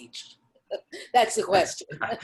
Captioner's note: laughing